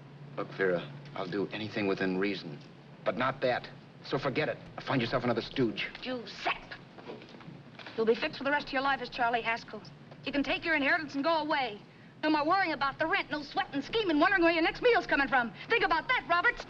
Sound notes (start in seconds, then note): none